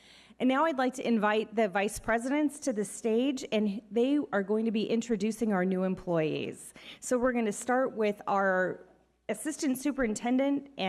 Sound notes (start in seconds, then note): none